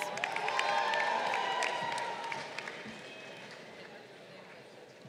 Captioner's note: crowd cheering